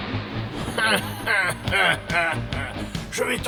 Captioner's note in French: rire démoniaque